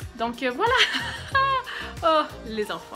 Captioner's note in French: rire